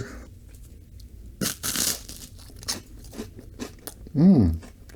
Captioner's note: crunching noises